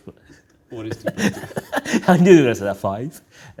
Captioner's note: chuckling